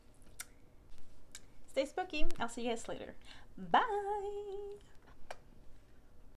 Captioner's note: kisses